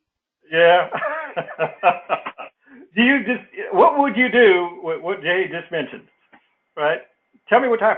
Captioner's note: laugh